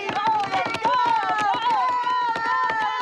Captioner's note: cheering